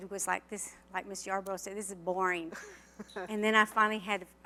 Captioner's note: laughter